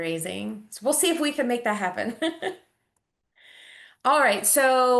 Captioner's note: chuckles